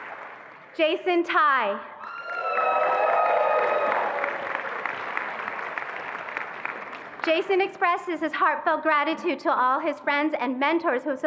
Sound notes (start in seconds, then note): 2.0 attendees applauding and cheering